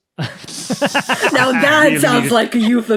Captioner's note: guests laughing